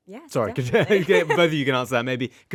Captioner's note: laughing